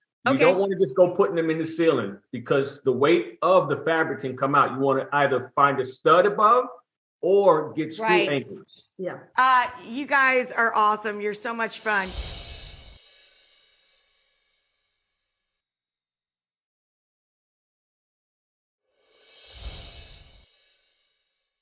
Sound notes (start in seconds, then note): 12.0 twinkling; 20.4 twinkling